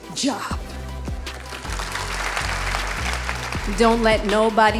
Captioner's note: audience applauding